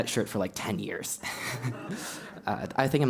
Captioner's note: laugh